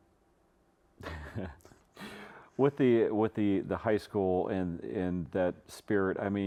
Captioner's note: laughs